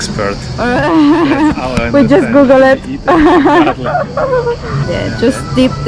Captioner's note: laughing